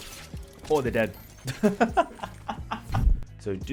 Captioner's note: laughs